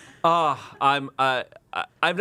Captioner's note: everyone laughs; sighs